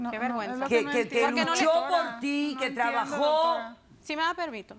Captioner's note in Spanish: Hablan al unísono